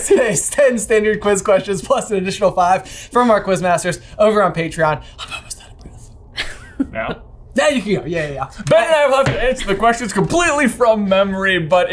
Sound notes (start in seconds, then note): 5.4 whispers